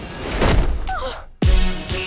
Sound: gasps

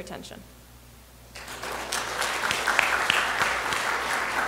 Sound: applause

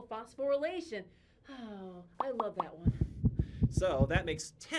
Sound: sighs

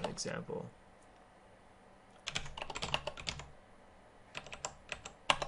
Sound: keyboarding

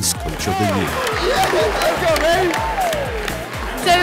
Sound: applause

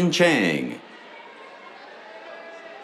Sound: cheers

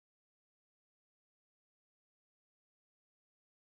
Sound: none

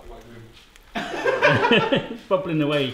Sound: all laugh

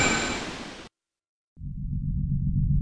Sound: music Stops

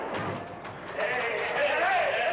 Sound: door banging

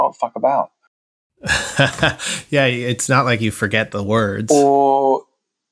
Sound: laughter

